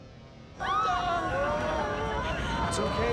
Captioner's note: screaming